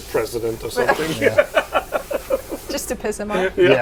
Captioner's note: laughs